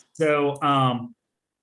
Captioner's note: laughing